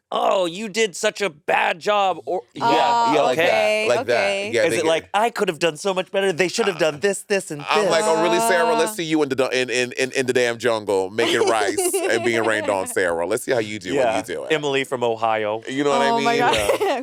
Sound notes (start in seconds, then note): 11.2 laughing; 16.0 laughing